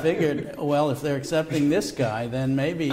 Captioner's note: laughter